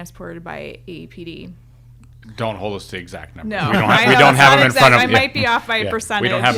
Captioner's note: both laughing